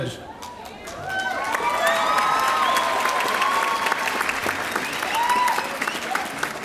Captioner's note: audience cheering and applauding